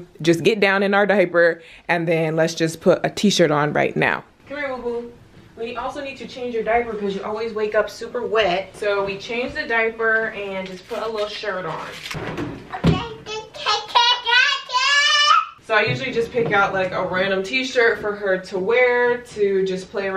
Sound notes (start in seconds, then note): 13.0 baby talk